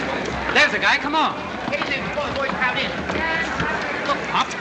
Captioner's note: reporters rushing